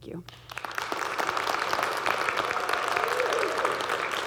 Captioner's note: audience clapping